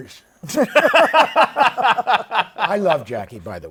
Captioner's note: laughter